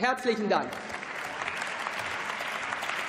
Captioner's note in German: Beifall